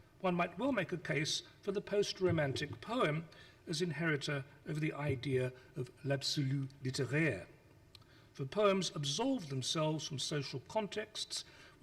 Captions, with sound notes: One will make a case for the post-romantic poem as inheritor of the idea of (speaks foreign language). For poems absolve themselves from social contexts